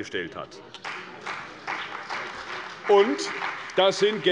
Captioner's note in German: Beifall bei der CDU und dem BÜNDNIS 90/DIE GRÜNEN